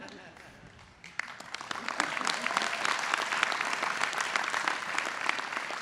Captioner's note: audience laughing and applauding